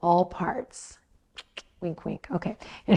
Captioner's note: clicks tongue